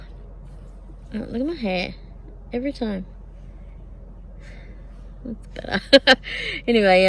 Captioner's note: cackles